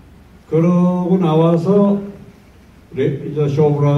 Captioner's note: in foreign language